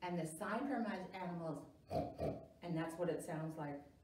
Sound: makes the sign for Pig and also makes a pig sound

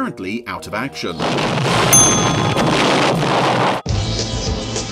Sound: loud explosion

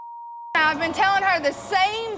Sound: audience gasps

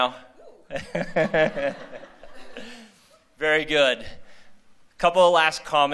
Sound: laughter

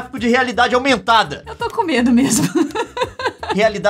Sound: laughing

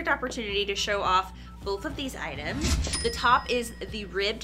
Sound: cash register dings

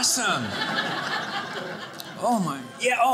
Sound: audience laughing

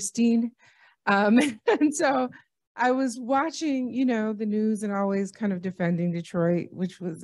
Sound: laughter

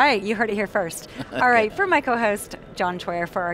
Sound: guest laughing

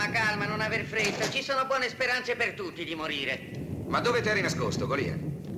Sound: thunder rolling

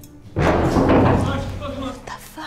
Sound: loud pounding and mumbling

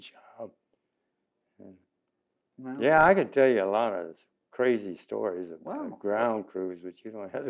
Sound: laughs

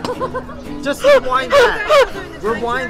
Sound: laughter; laughing

